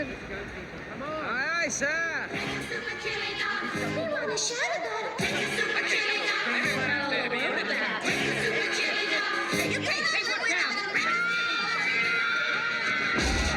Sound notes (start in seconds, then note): 11.0 screaming